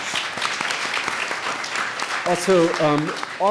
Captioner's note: audience applauds